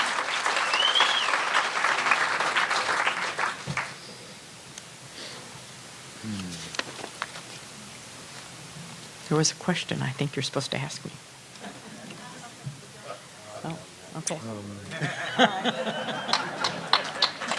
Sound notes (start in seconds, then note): 3.1 applause